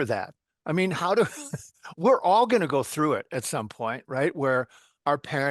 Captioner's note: chuckle